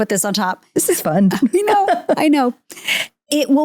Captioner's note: chuckles